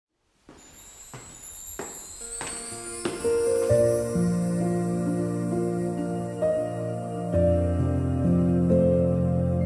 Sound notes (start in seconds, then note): 0.4 steps on the stairs in the hallway; 3.2 ♫ Peaceful music